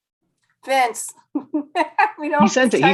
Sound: laugh

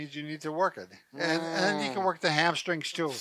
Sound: groans

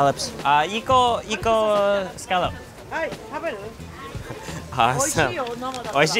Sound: speaking in Japanese

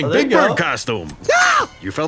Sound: screams

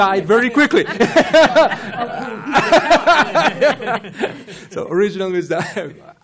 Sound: laughter

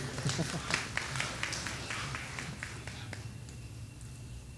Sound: laughing; audience applauding

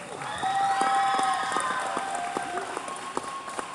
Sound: cheers

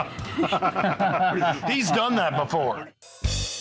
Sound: laughter

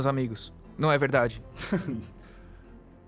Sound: the Hotelier laughs

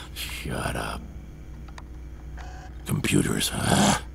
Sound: mechanisms tinkering

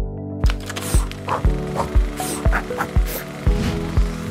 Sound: light electronic music; air whooshing

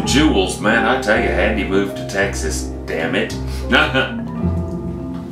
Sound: laughs

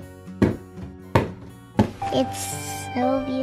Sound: screwdriver banging

